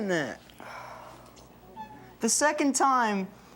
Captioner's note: sighs